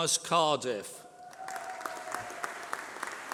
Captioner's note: applause